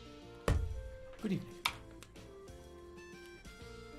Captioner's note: aggressive key pressing